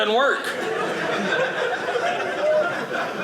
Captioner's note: audience laughing